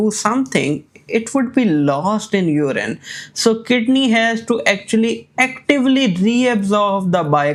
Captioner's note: none